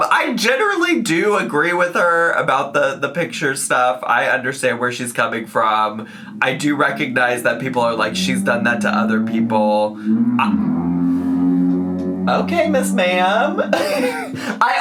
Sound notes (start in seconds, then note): 10.5 motorcycle revving in the distance; 12.2 laughs